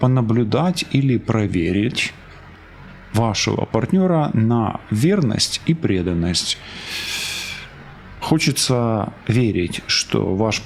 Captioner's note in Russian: вздыхает